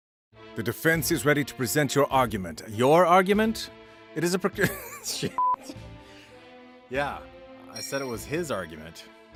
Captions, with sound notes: -The defense is ready to present your argument. Your argument? It is a precarious- [laughs] Sh*t. Yeah. I said it was his argument.